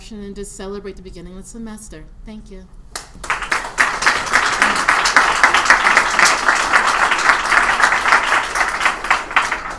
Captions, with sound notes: and just celebrate the beginning with the semester. Thank you. [APPLAUSE]